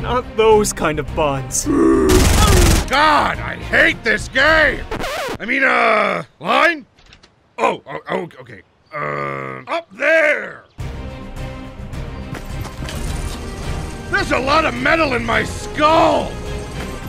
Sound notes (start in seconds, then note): 1.6 growling; 2.0 gun firing; 4.9 record scratching